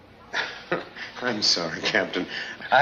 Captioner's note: Doctor Burke laughs